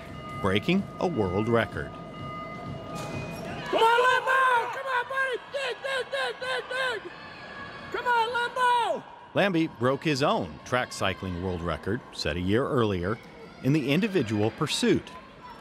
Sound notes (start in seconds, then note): 3.7 incoherent yelling